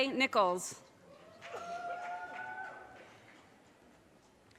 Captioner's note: audience cheers and applause